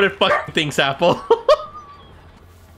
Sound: Mickey mouse laughs

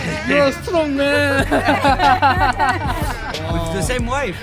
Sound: laughs

